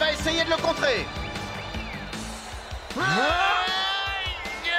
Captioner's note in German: beifall